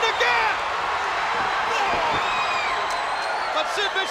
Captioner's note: crowd cheering